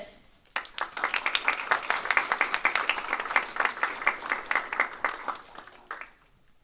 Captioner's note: applause